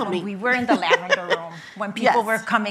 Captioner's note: laughing